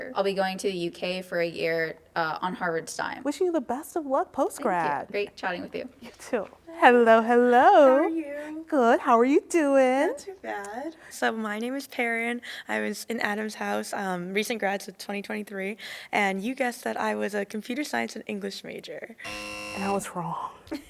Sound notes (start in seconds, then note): 19.2 buzzer